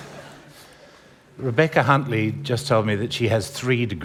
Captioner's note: laughter